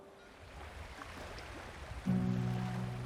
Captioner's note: waves lapping gently